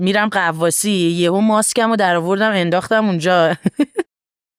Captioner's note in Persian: خنده